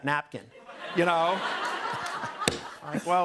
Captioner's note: laughter